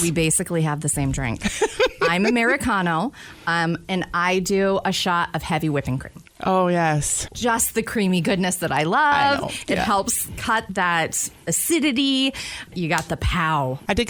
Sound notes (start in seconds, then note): 1.4 laughs